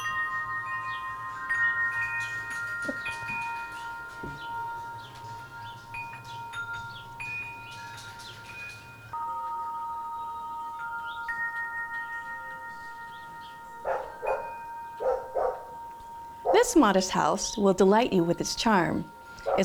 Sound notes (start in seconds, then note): 0.2 chiming; 15.0 dog barking